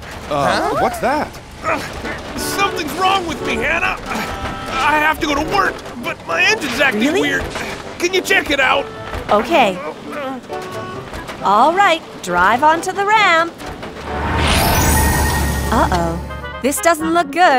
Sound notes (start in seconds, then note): 3.6 grunting; 3.9 rattling and clanking